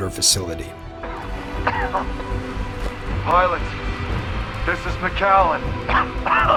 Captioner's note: cough